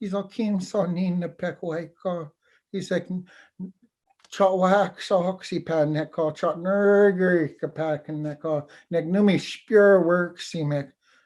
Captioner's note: foreign Language